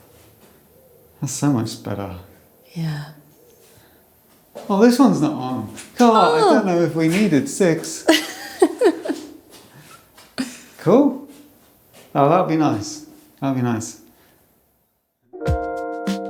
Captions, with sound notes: That's so much better. Yeah. Oh, this one's not on. I don't know if we needed six. (laughing) Cool! Oh, that'll be nice. That'll be nice.